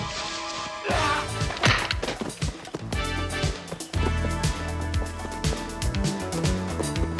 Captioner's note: dramatic music; man yelling